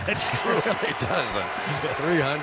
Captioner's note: laughter